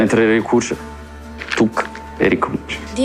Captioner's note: hands clap